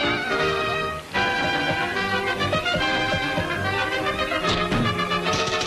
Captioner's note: blows thudding